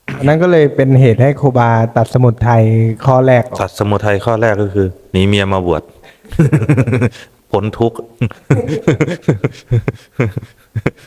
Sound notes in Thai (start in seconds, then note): 6.2 เสียงหัวเราะ